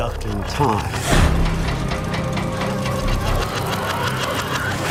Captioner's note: machine whirring